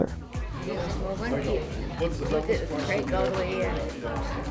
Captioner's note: ladies chattering